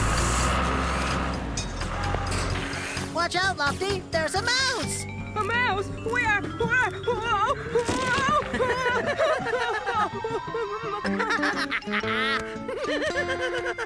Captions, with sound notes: ( Engines Running ) WATCH OUT, LOFTY, THERE'S A MOUSE! A MOUSE? WHERE? WHOA...WHOA... WHOOOAAA! OH! OH! ( Laughing )